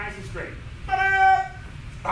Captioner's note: enthusiastic shouting